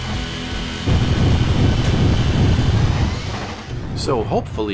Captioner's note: exciting pinball noises